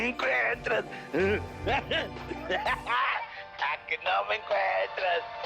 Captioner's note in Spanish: Risas